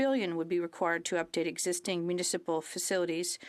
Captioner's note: speaking French